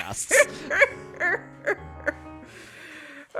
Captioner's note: laughs